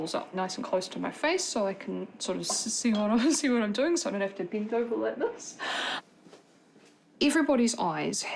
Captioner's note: chuckles